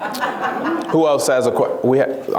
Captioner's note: laughs